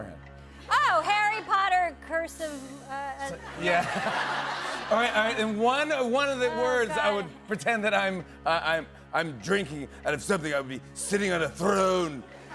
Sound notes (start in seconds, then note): 3.3 laughter